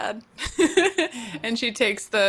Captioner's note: laughs